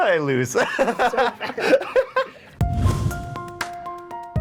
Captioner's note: laughing; intense music